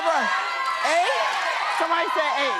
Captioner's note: audience shouting numbers